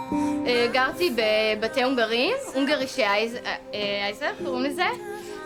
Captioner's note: speaking in foreign language